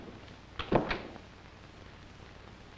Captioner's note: door shuts